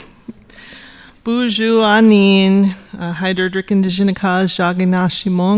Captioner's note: speaking Ojibwe